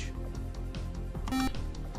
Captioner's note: beep